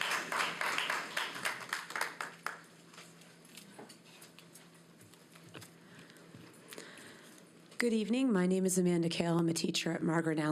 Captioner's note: applause